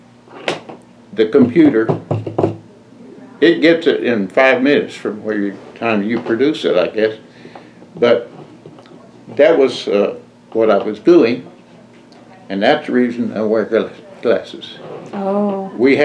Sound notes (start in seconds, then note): none